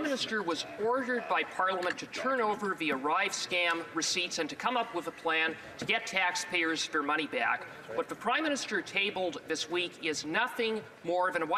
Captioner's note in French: voix de l'interprète